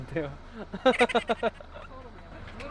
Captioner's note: kekekekeke